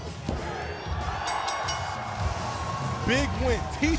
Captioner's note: crowd cheering